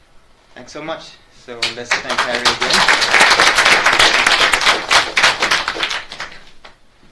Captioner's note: audience claps